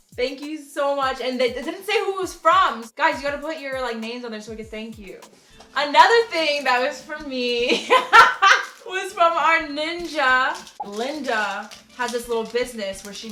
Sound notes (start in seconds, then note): 7.7 laughs